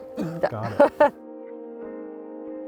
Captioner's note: laughing